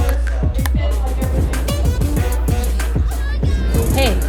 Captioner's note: talking